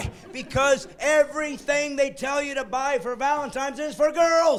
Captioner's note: laughing